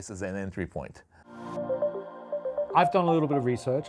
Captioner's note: screen chiming